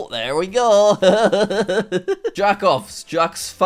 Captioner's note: chuckling